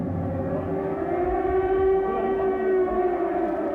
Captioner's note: alarm sounds